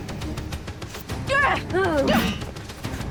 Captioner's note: Rachel grunts; knife slings